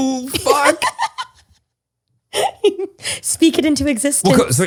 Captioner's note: laughs